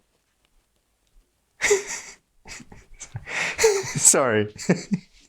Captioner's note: Max laughs